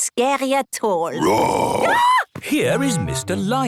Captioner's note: roar, scream